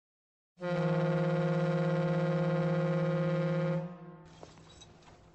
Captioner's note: boat horn blowing